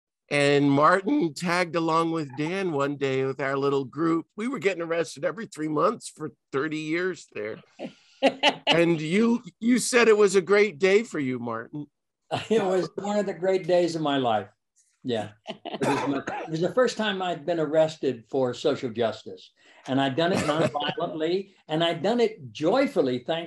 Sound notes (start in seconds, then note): 8.2 laughing